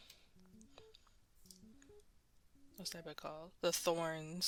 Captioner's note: mouse Clicking